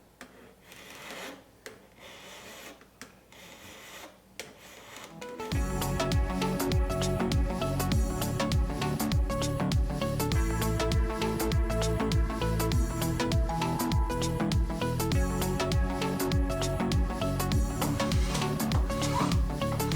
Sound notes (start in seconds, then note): 1.9 file scraping; 5.7 upbeat techno music